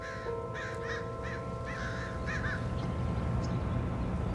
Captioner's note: birds cawing